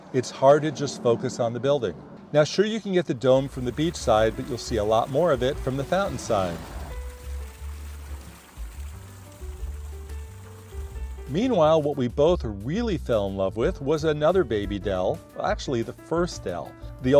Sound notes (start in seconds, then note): 6.7 upbeat music; 6.7 water flowing